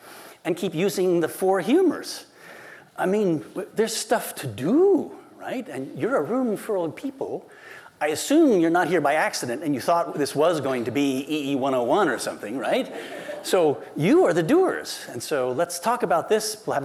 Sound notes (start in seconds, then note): 12.8 laughter